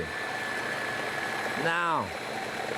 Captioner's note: food processor whirring